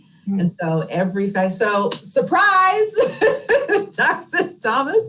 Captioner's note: laughs